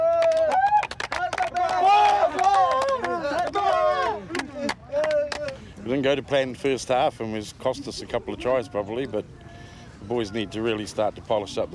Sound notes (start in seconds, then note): 0.0 cheering